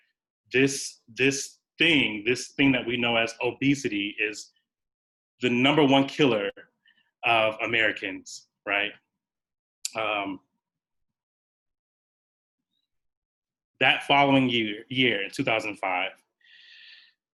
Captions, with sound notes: this-- this thing, this thing that we know as "obesity" is the number one killer of Americans right? That following year, in 2005 (sighs),